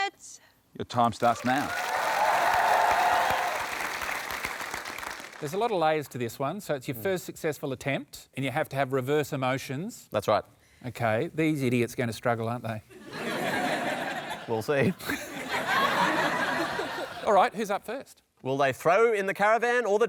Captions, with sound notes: "Your time starts now." (APPLAUSE) There's a lot of layers to this one. So it's your first successful attempt and you have to have reverse emotions. That's right. OK. These idiots are going to struggle, aren't they? We'll see. All right. Who's up first? Will they throw in the caravan or the towel?